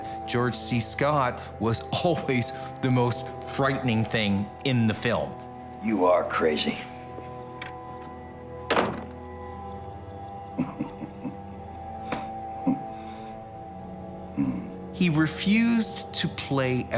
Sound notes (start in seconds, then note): 8.6 door closes shut; 10.5 laughs softly